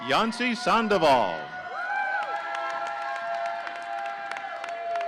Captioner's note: audience cheering